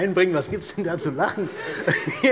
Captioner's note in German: Allgemeine Heiterkeit